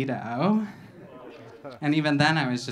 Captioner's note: audience laughing